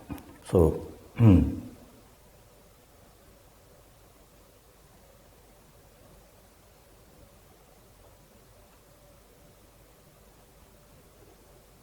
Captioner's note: pause